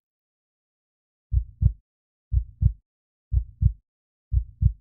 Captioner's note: heartbeat